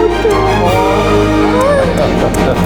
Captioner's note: patient exclaiming; intense dramatic music; recipients laughing